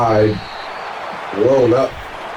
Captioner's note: crowd Noises